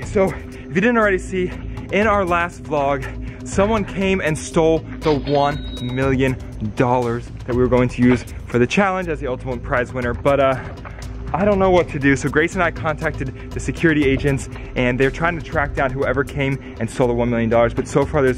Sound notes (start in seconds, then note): 5.1 cash register chimes